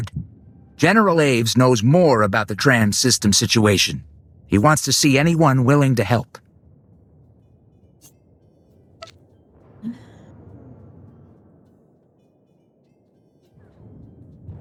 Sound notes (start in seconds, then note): 3.9 sighs